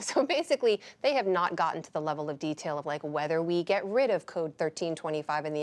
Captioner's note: laughs